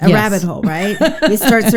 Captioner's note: laughs